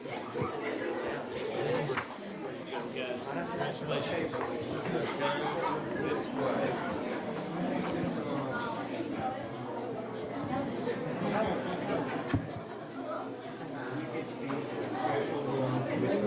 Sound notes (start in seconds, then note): 0.2 crowd giggling; 8.3 people chattering